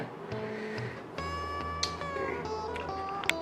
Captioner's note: breating